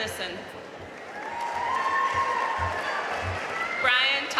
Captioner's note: audience cheering and applauding